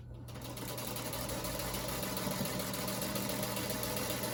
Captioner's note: sew machine humming